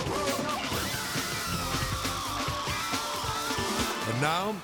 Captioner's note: team cheering